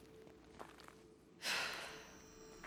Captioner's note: sigh